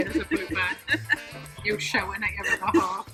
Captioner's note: laughing